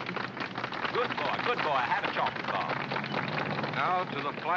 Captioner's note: applause